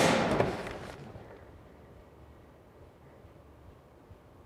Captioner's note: locker door bangs